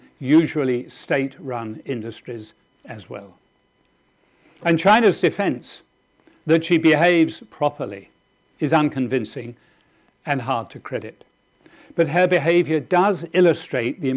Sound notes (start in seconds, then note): none